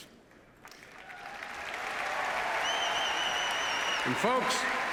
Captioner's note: applause